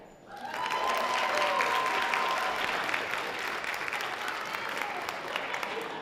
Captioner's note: sustained audience applause